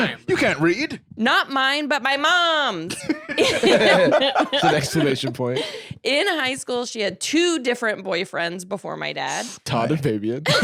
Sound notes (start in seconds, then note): 2.8 all laughing